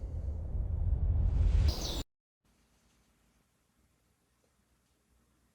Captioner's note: birds chirping